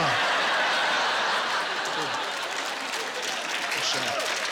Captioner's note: laughter; cheers and applause